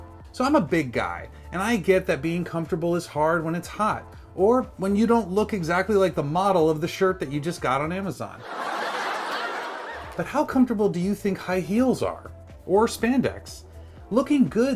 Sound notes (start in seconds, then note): 8.4 mocking laughter